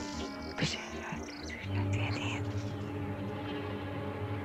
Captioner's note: whispering; worrying music